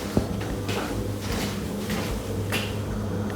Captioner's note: none